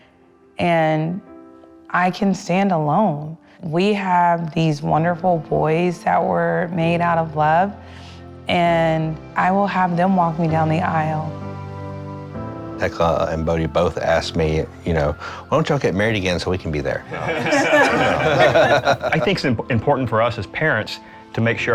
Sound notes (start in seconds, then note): 17.1 laughter